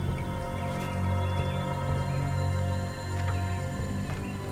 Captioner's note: birds singing